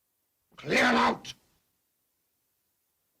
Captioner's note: Joss growling